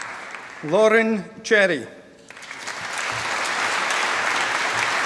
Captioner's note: applause